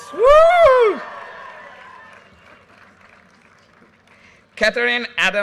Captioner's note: audience cheers and applause